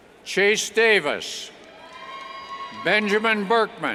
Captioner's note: cheers